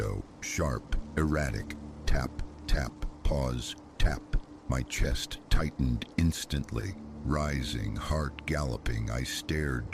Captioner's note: tap, tap… pause… tap